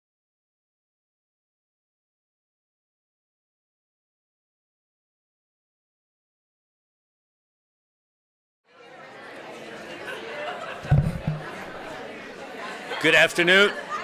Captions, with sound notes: [ Background Talking ] >> Good afternoon.